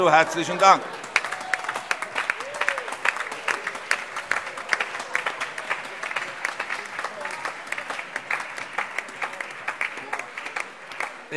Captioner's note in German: Allgemeiner Beifall